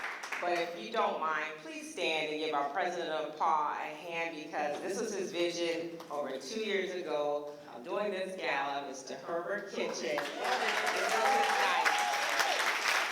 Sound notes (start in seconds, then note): 10.0 applause